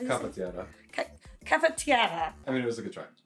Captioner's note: speaks Italian; speaks Italian incorrectly